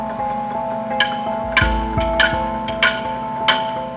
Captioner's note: tapping